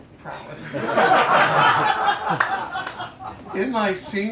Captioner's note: laughter